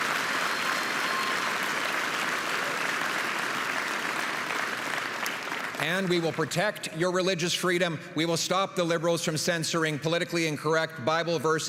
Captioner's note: applause and cheering